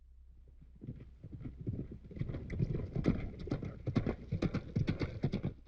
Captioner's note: horses galloping